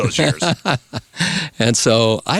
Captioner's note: laughing